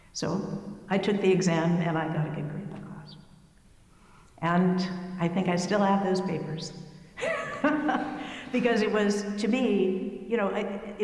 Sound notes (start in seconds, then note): 7.2 laughing